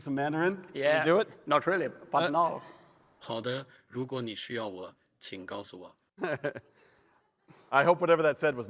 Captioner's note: Mandarin